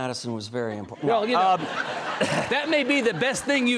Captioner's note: audience laughing